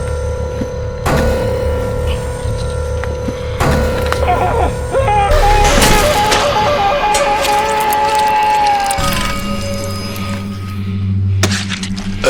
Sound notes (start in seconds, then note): 4.2 Massai screaming; 4.3 dramatic music; 9.0 solemn music